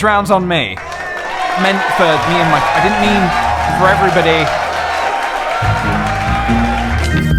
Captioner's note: cheering; cheering continues